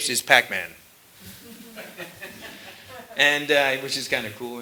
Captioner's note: laughter